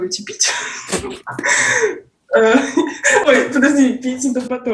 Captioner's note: laughs